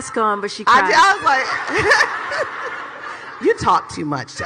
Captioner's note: laughs